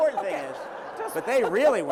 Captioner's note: laughter